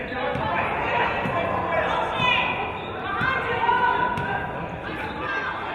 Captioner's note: players and audience yelling